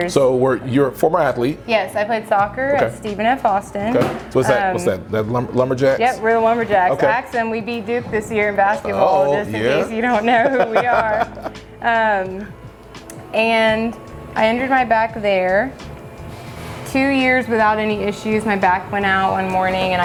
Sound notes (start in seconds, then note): 10.1 laugh happily